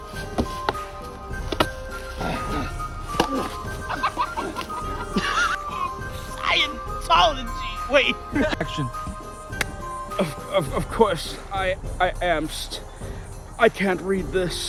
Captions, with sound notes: (cackling) (groaning) I...I am...I can't read this.